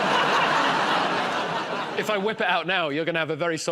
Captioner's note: laughter